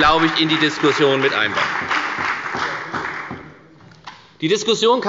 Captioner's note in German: Beifall bei der FDP und bei Abgeordneten der CDU